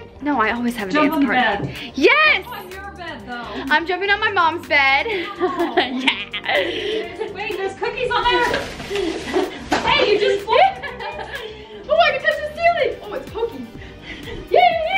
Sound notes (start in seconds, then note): 11.4 laughs